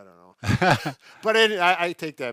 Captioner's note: laughing